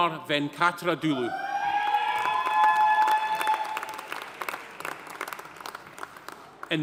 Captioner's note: audience cheering; audience applauding